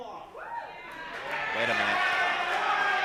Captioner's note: crowd cheering